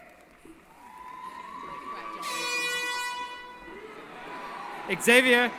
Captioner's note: cheering